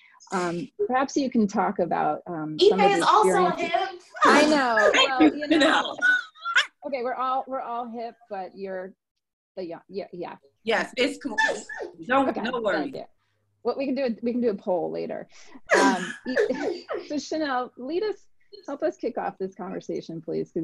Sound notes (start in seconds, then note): 4.1 laughs